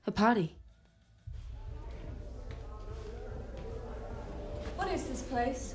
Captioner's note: dull indistinct chatter